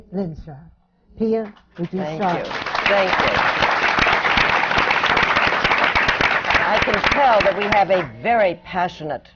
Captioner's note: applause